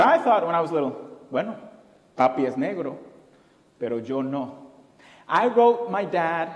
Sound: foreign language

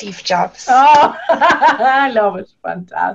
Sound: laughs

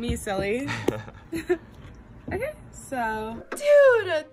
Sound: chuckles

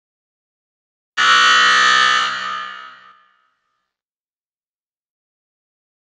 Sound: buzzer sound

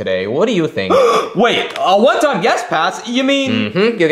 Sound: gasps

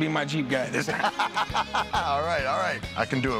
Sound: laughs

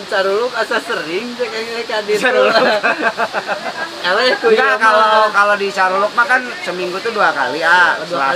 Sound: laughter

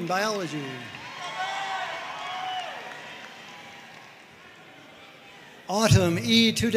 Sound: audience cheering and applauding

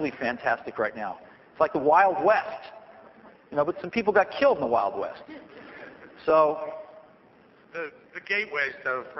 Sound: soft laughter

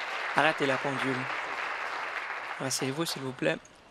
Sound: applause

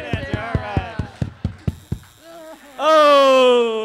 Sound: buzzer sounding

